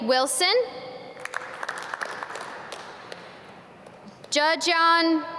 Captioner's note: audience clap